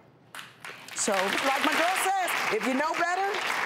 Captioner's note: audience applause